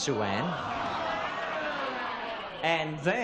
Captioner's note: audience groaning